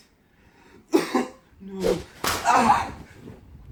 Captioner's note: coughs again